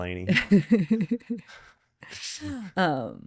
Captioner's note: laughing